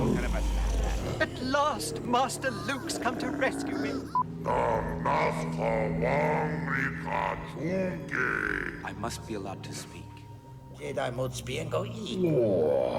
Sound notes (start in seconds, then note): 4.0 Speaking Huttese